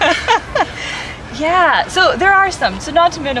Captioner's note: laughing